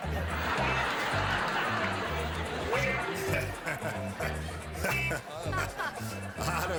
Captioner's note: laughter